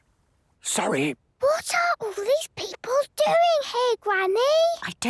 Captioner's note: whispering; quietly